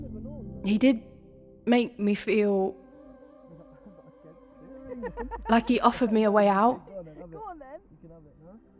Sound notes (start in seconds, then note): 2.4 gemma and darren faintly laugh